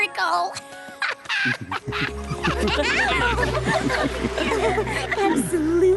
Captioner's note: laughter